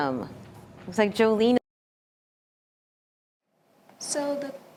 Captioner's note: audio out